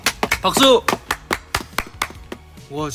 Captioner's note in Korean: 박수 소리